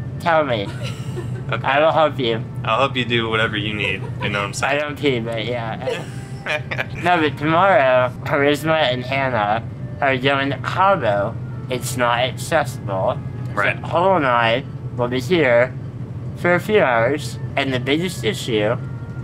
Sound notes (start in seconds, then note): 0.6 laugh; 7.0 laughs